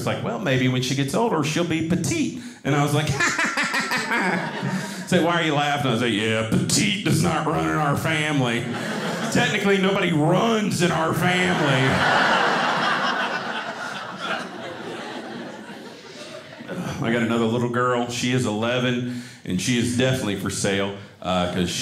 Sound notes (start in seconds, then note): 3.0 laughing; 11.1 audience laughing